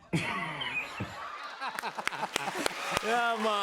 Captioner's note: laughs; laughter and applause